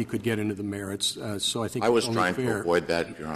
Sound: laughter

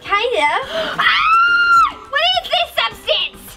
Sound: Gertie screaming

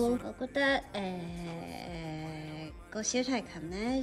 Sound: ummmm

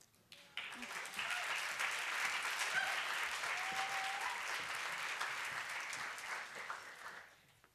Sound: applause

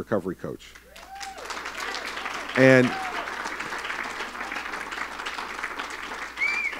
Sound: cheering and applause

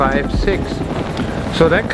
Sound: helicopter whirring

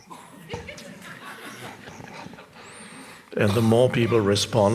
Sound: audience laughing

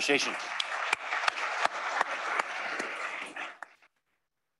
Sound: applause

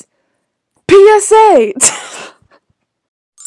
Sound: wheeze

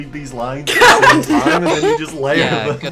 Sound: laughter

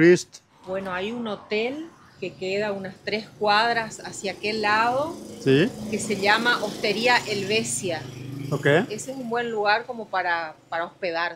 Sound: speaking in Spanish

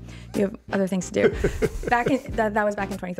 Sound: laughing

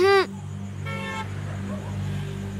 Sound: vehicle horn sound

